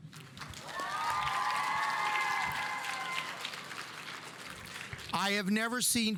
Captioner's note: audience applauding; audience cheering